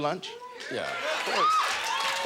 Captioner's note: audience cheers